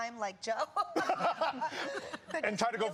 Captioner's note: laughter